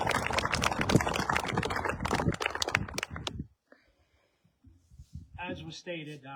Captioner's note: applause